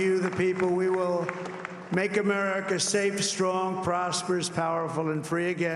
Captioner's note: cheering and applause